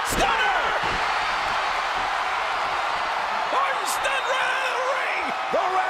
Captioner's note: applause